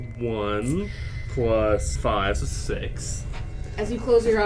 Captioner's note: takes a deep breath